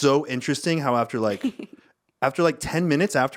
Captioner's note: laughing